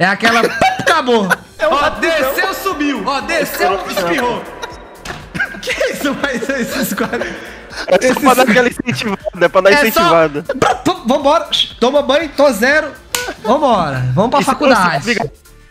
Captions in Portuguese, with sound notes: É aquela PUP acabou. Ó, desceu, subiu. Ó, desceu, espirrou. [risos] Que isso? [risos] É só pra dar aquela incentivada Pra dar uma incentivada. É só... vamo bora, toma banho, tô zero. Vambora. Vamos pra faculdade.